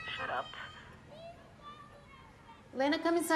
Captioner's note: kids yell outside